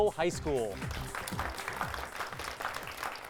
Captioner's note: applause